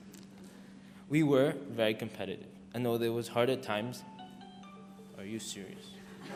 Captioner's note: phone rings